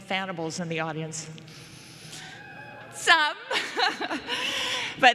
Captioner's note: cheering; laughter